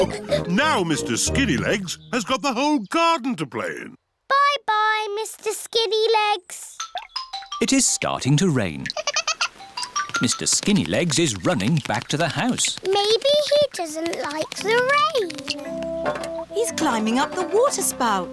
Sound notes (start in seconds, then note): 8.9 giggles